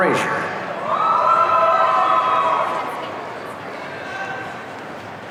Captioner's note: audience cheering